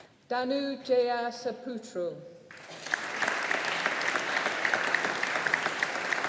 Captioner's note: audience applauding